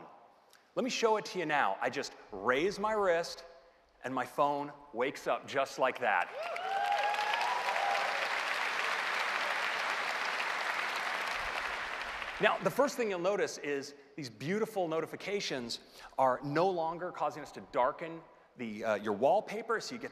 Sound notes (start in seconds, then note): 4.6 cheers and applause